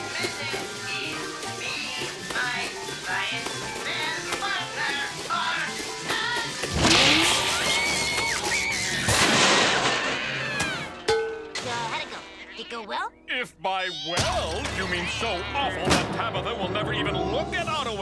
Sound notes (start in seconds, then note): 0.1 short circuiting; 7.6 Tabitha shrieking; 8.6 robot exploding; 9.9 robot crashes